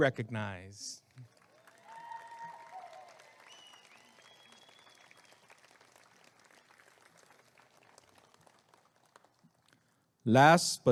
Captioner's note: applause and cheering